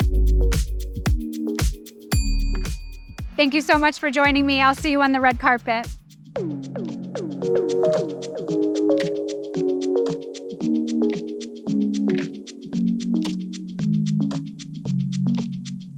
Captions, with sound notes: [buzzer dings] Thank you so much for joining me. I'll see you on the red carpet. [upbeat music]